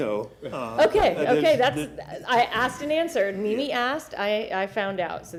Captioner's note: laughter